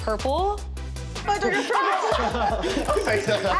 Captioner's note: contestants exclaim